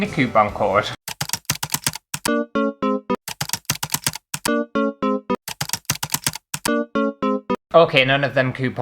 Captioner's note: typing & Error Alerts